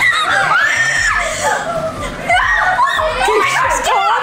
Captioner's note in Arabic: صراخ